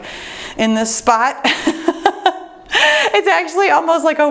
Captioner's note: laughs